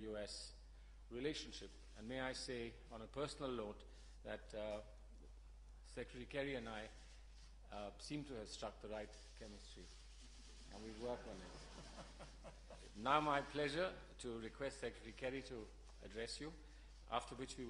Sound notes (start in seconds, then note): 11.6 laughter